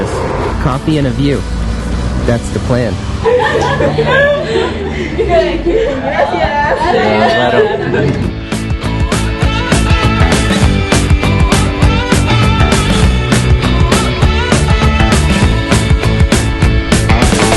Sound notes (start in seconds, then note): 3.2 laughter; 4.4 speaking Spanish